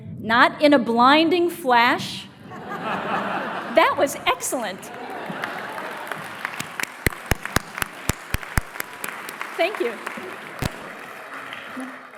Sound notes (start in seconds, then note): 2.4 laughter; 4.7 applause